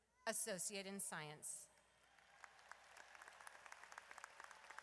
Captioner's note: audience applauds